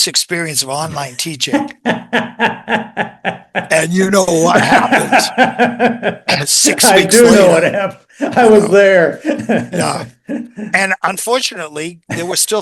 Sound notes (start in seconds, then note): 4.4 INTERVIEWER: laughs